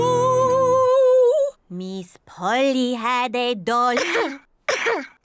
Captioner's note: strums guitar; coughs